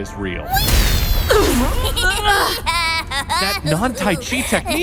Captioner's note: laughing